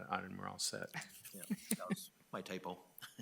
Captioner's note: group laughing